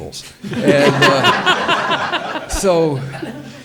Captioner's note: audience laughs